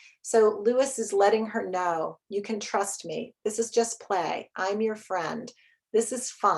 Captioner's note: none